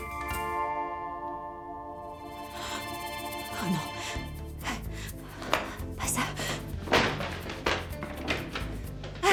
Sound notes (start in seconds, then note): 4.8 breathing heavily